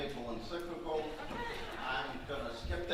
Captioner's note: audience laughing